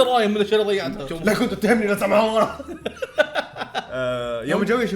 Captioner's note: laughs